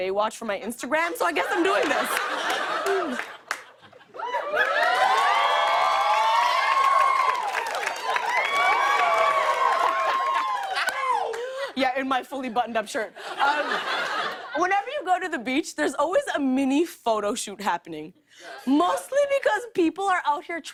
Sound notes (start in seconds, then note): 4.1 cheers and applause; 9.6 laughs